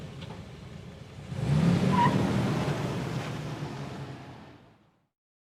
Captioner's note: car engine revving